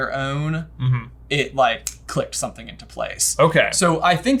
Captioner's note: snaps